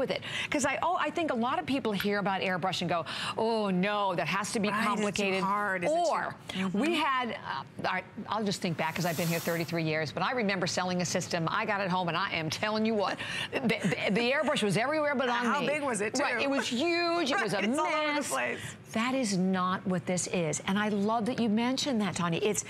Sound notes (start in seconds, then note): 16.5 laughter